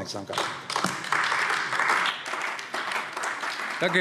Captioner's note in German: Beifall AfD